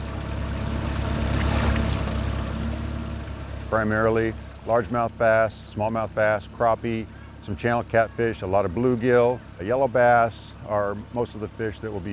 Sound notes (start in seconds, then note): 1.6 boat motor chugging